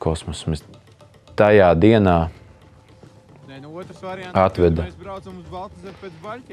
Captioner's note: background chatter